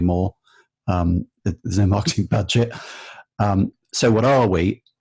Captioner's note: both laughing